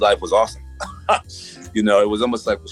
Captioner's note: laughs